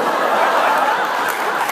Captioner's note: laughs